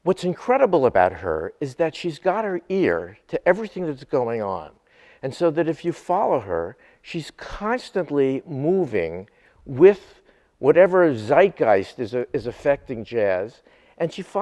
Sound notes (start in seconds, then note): none